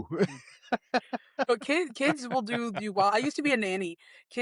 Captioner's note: laughing